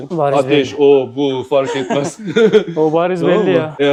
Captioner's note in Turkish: kahkaha